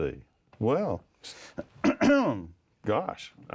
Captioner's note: clears throat